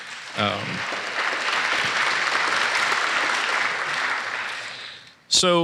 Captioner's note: applause